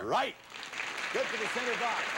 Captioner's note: audience applauding